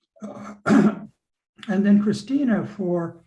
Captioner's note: clears throat